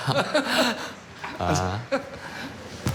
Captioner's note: both laughing